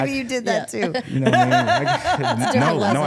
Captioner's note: laughing